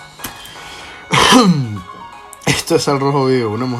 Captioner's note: clear cough sorry for your ears